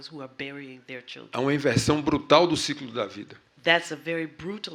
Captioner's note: speaking portuguese